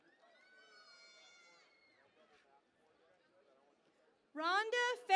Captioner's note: cheering and Applause